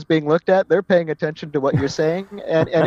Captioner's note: laugh